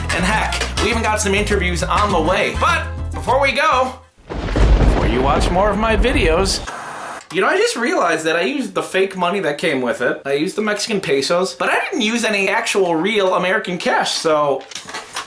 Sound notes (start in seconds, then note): 4.2 thunder crashing; 5.5 static buzzing